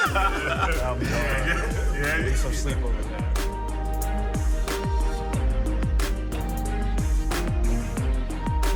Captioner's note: laughter